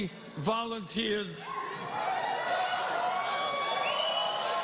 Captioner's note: cheers and applause